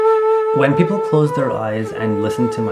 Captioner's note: voiceover